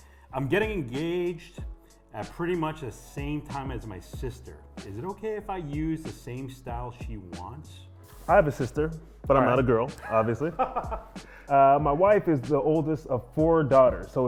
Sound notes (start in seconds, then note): 10.0 laughs